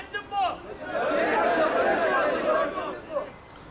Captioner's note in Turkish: Hep bir ağızdan